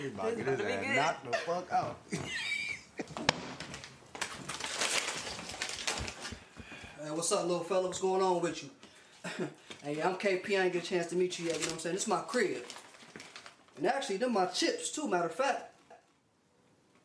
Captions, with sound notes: He about to get his ass knocked the fuck out. (cupboard slams) (bag rustles) - Hey, what's up lil fellow? What's going on with you? Hey, I'm KP. I ain't get a chance to meet you yet. You know what I'm saying? This is my crib and actually them my chips too. Matter of fact.